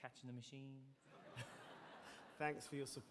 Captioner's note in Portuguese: audience laughing